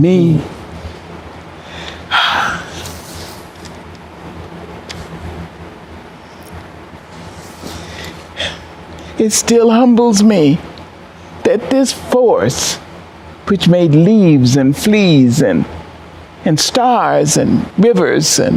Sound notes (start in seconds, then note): 2.0 crying